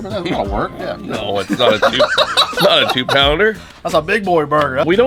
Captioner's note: laughing